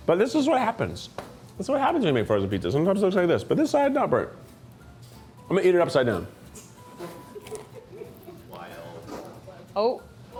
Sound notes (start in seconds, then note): 7.0 crew member chuckles